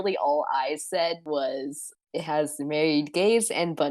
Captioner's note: none